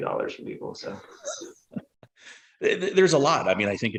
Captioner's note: laughing